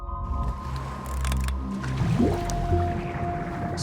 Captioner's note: divers splashing